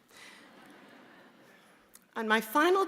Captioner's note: audience laughing